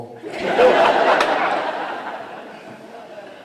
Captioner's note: laughter